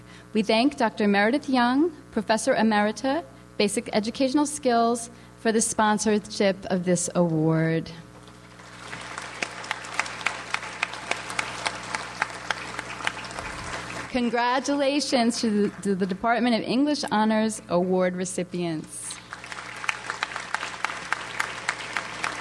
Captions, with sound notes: We thank Dr. Meredith Young, Professor Emeritus, Basic Educational Skills, for the sponsorship of this award. (audience applauds) Congratulations to the Department of English honors award recipients. (audience applauds)